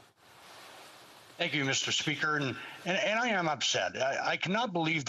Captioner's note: speaking in french